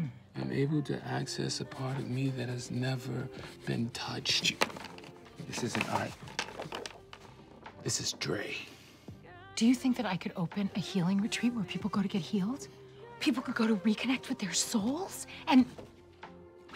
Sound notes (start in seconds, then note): 4.2 crayons clatter